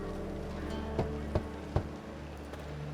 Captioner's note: knock knock knock